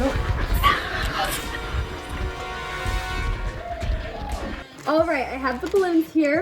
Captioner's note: whispering; suspenseful music